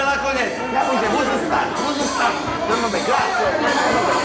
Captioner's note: all talking loudly in a hype